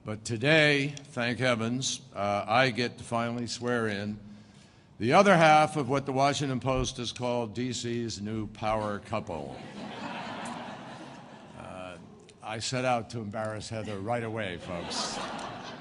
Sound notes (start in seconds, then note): 9.4 laughter